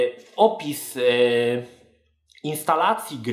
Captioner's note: stutters